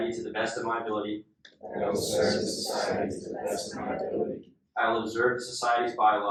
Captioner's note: inductees repeat